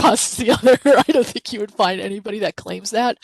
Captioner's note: chuckling